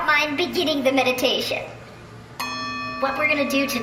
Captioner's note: ding